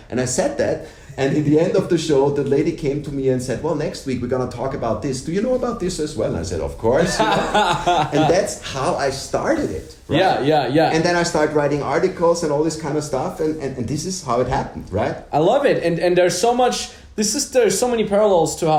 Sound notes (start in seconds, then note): 7.0 laughs